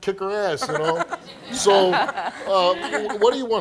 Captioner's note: laughing